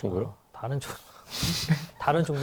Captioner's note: laugh